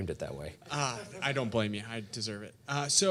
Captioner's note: audience laughing